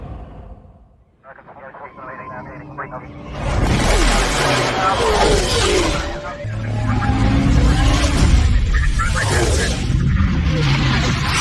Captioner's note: pilot radio message